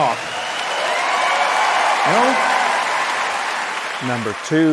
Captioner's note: audience applauds